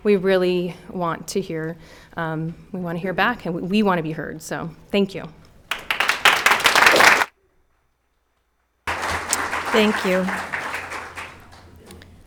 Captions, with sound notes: we really want to hear, we want to hear back, and we want to be heard. So, thank you. (audience clapping hands) - Thank you.